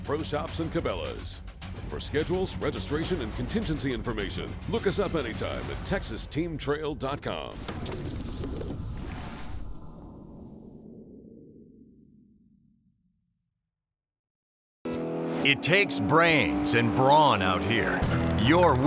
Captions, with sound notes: presented by Bass Pro Shops and Cabela's. For schedules, registration, and contingency information, look us up anytime at texasteamtrail.com. (whooshing)